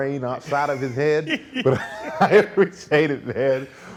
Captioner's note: laughing